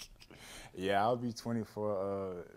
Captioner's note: laughter